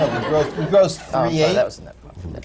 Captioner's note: laughter